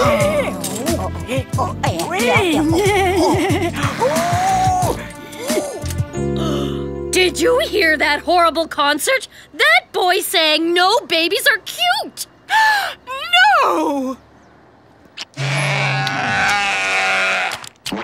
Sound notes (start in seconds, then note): 0.0 moaning; 6.2 gasping; 12.4 gasping